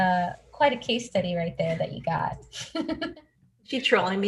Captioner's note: laughs